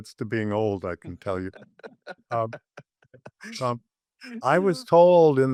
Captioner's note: laughing